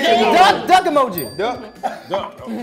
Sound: bell dings

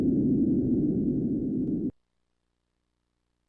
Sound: droning fades

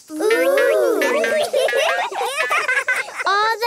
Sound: laughing

